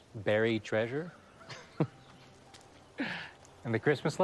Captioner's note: chuckles